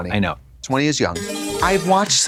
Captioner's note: bright chime